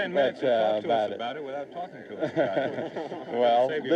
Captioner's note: laughs